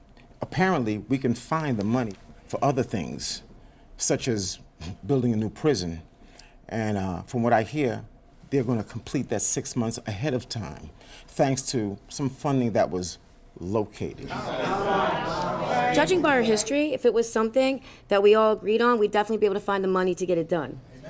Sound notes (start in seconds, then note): 14.2 crowd rumbling